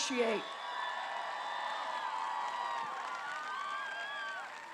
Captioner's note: applause